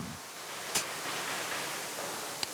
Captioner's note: soft hissing